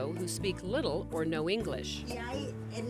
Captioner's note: women speaking Spanish